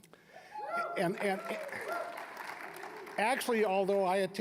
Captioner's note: applause, cheering